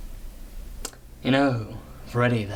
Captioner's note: sultry